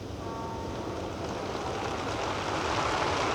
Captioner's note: applause